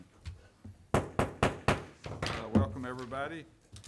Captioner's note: wood knocking